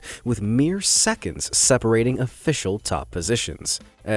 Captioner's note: none